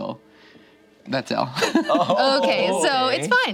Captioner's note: laughs